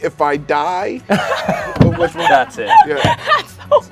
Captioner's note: everyone laughs